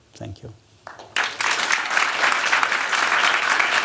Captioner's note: applause